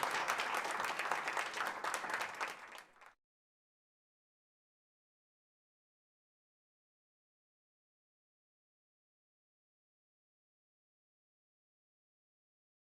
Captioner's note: applause